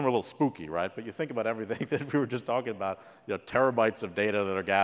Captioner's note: laugh